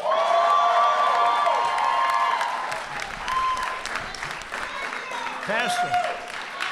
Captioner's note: applause